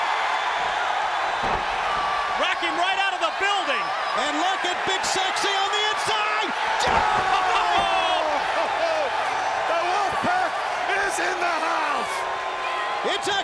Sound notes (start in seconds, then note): 0.1 audience cheers; 7.3 audience cheers